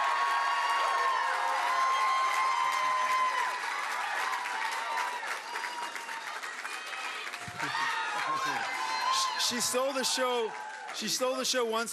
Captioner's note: cheering and Applause